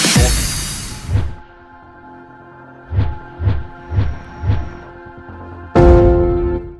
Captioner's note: transition sound; calm music plays